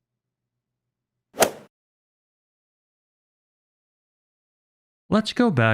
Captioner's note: golf ball hit sound effect